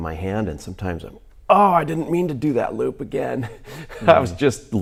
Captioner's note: laughs